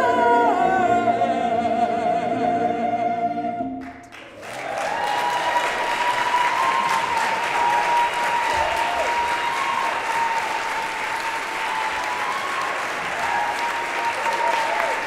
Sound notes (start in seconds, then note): 3.8 applause